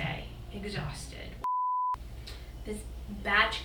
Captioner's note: beep